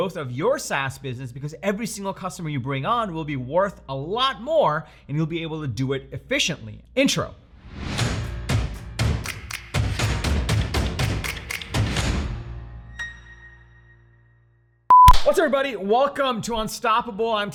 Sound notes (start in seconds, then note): 8.1 clapping sounds; 9.0 upbeat music